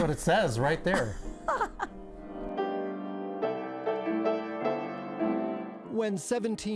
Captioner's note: upbeat piano music; laughing